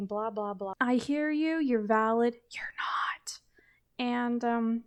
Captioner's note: whispers